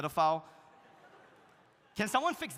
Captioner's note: audience laughs